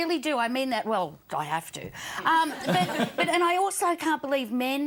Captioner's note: audience laughs